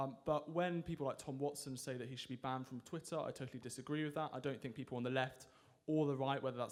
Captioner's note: none